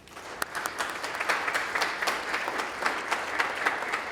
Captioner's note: audience applauding